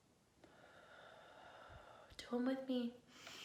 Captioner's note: whispers; deep exhaling